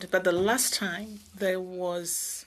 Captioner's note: speaking in French